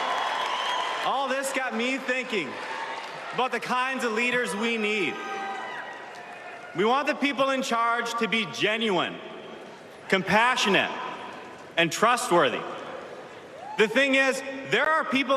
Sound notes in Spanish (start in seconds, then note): 2.4 Aplausos